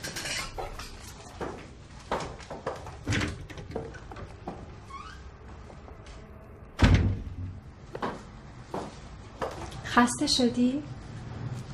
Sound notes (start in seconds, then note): 2.8 door opening; 6.7 door closing